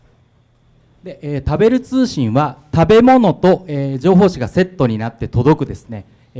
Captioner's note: speaking foreign language